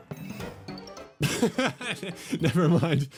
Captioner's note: laughs